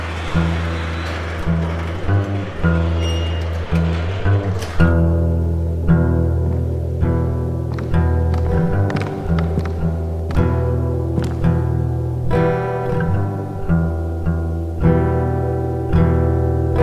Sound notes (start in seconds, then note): 2.8 shutter doors squeak; 7.9 footsteps approach